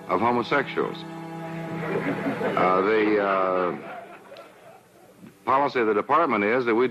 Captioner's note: laughter